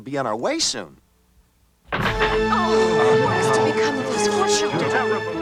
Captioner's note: door bangs open, people mumbling, panther growling